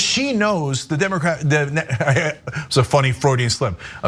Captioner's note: laugh